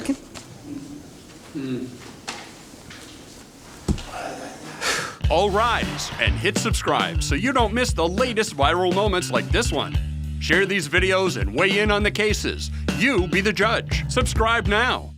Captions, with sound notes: (speaks Spanish) (big sigh) All rise, and hit subscribe, so you don't miss the latest viral moments like this one. Share these videos and weigh in on the cases. You be the judge. Subscribe now.